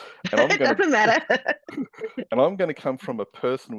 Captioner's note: laughs